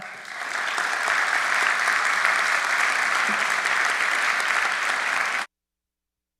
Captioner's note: applause